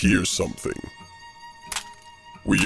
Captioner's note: gun cocks